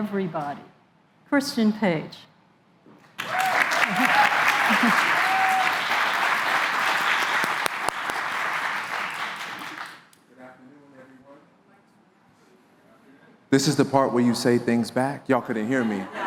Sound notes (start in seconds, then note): 3.1 applause